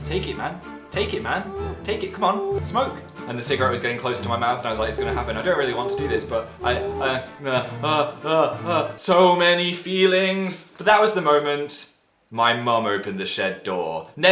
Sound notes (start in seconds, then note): 6.8 panicked noises